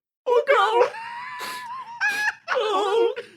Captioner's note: laugh